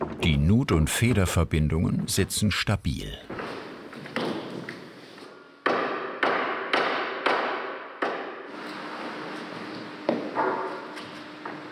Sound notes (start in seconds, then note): none